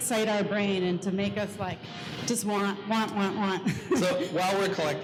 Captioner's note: laughs